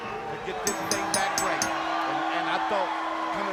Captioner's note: bell ringing